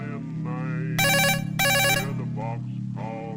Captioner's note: telephone ringing